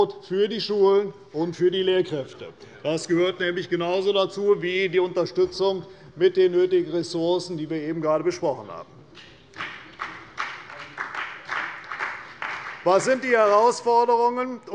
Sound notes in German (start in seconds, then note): 9.5 Beifall bei Abgeordneten der CDU und des BÜNDNISSES 90/DIE GRÜNEN